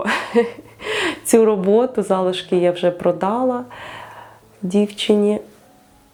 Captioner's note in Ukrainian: сміх